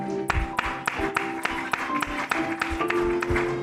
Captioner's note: applause